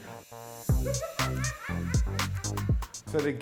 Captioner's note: laughs